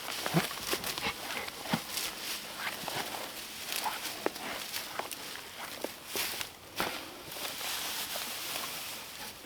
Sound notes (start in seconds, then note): 1.2 grass ripping